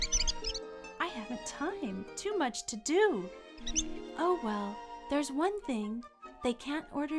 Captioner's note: squeaks; squeaks